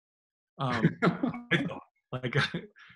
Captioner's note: laughs